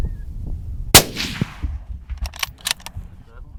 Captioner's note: gun shot